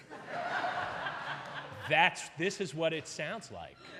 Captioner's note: audience laughing